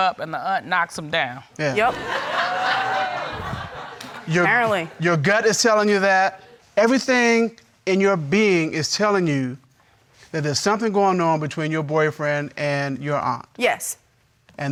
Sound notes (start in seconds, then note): 1.8 audience laughing